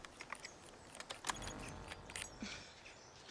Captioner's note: device beeps